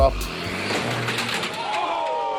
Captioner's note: car accelerating